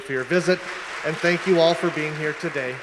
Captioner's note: audience applauding